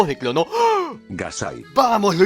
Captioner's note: gasp